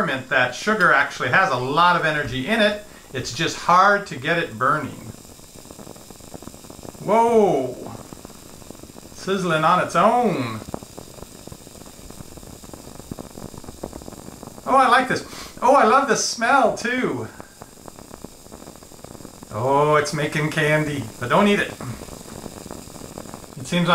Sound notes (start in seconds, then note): 10.6 light searing; 15.2 light inhaling